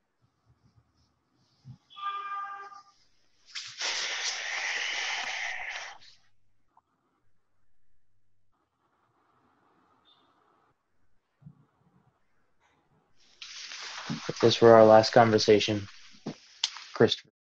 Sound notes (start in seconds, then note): 1.9 car horn honks; 3.6 exhales